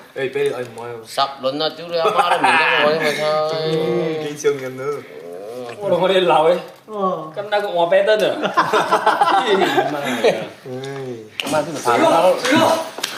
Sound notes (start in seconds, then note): 8.3 OR KIA laughs